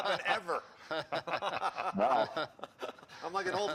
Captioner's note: laughter